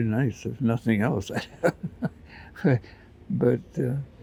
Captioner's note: chuckles